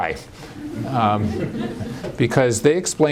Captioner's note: laughter